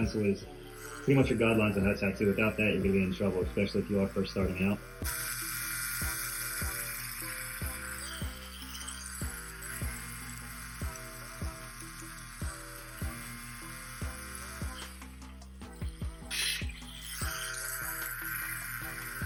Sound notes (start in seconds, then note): 5.3 slow groovy music; 5.3 tattoo gun buzzing